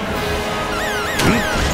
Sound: alarm

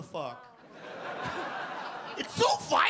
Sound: audience laugh

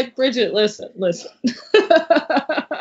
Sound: laughs

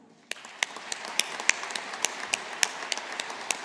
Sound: audience applauding

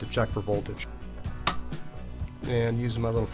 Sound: clicks

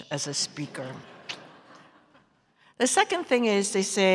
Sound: smacks lips

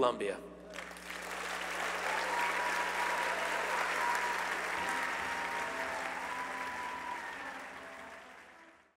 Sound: applause

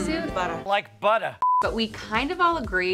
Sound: beep

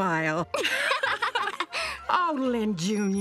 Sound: laughing

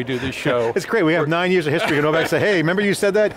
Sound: laughing

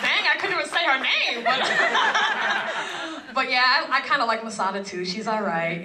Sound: laugh

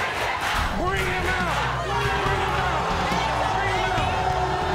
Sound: audience boos

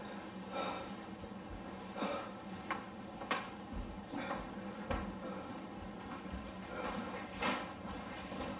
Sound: breathing heavily

